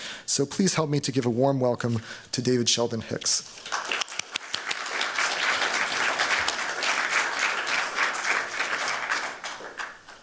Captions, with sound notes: So please help me to give a warm welcome to David Sheldon-Hicks. [APPLAUSE]